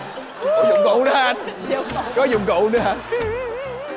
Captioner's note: laughing